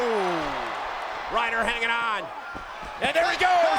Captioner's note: applause